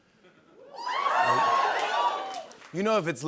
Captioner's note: scattered cheers